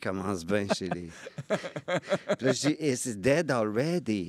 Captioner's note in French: rires